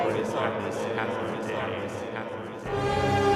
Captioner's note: voice reverberating; suspenseful orchestral music